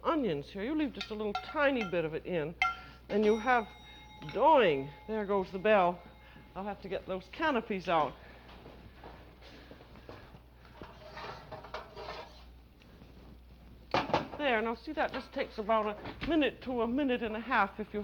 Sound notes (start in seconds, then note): 2.6 bell dings